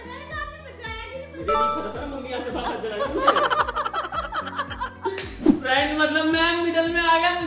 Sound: laughter

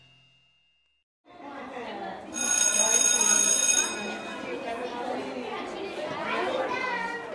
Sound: bell ringing over children chattering

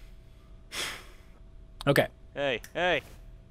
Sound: sigh

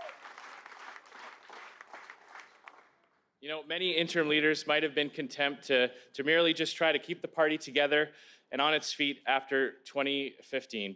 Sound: cheers

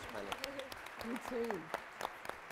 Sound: crowd applauds

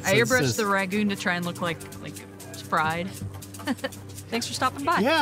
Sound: laughs

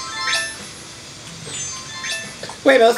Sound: chimes as outfit changes

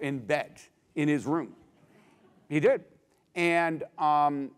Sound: laugh

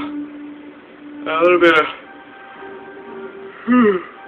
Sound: yawn

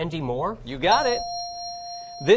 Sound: ding

